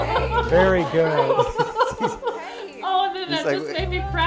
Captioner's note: parent laughing